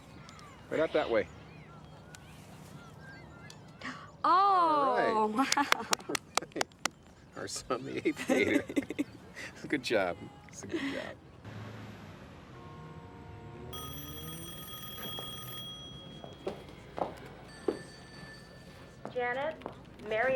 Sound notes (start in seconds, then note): 5.4 clapping; 8.4 chuckles; 9.0 laughs; 13.7 telephone rings